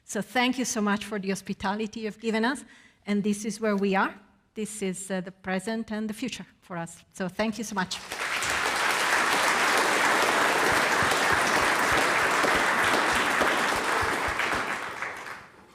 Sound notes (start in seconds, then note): 8.0 audience applauding